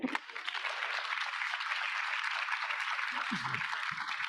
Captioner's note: audience applauding